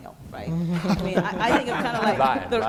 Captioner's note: laughing